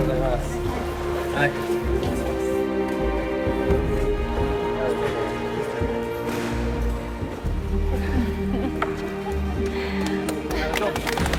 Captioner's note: applause